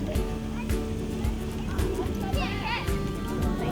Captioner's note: kids playing